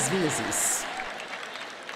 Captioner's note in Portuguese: público rindo